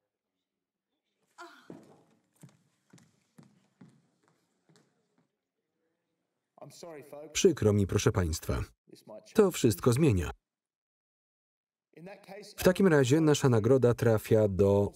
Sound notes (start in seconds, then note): 1.4 Mia sighs